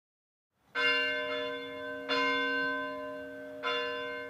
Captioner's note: bell ringing